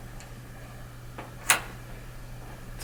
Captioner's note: door clicks